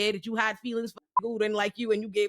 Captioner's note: beep